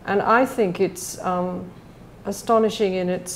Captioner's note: none